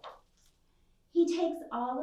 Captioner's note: page swishes